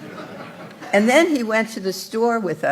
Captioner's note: laughter